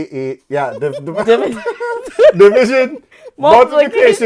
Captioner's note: laughing